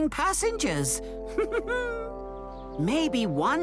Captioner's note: thomas giggles